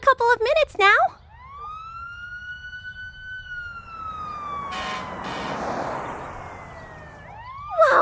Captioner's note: siren noises